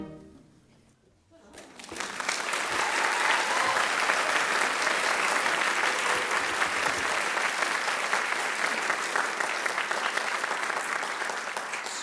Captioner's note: applause